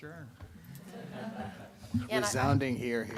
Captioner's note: laughter